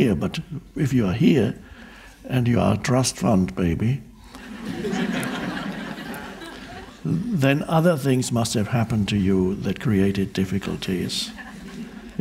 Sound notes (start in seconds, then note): 4.3 audience laughing